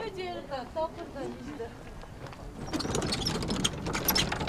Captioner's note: speaking Tibetan